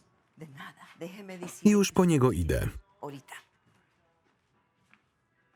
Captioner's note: speaking in foreign language